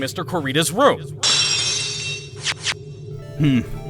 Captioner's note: lock shatters!